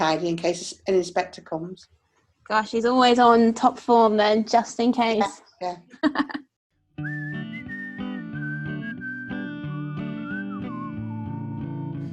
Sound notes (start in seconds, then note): 5.9 laughs